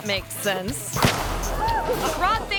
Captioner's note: explosion bangs; people shout and laugh